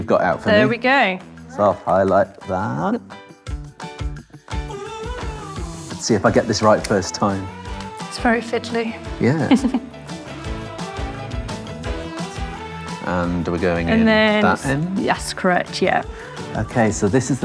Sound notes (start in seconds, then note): 9.2 chuckles; 9.8 upbeat music